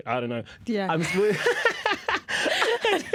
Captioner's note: laughter